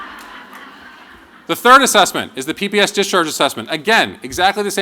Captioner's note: laughter